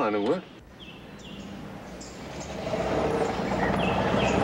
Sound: birds chirping

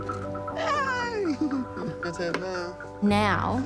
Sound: giggles

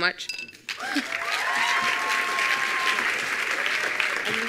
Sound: attendees applauding

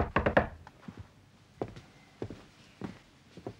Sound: knock on door

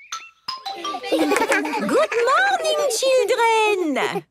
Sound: laughter

